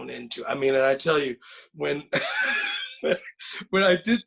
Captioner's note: laughs